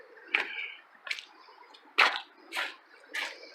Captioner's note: rocks crunching underfoot